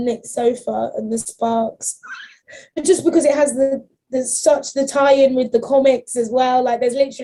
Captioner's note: quiet squeal